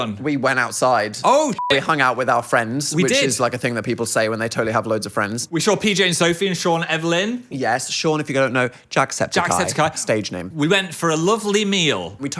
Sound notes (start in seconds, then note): 1.5 beep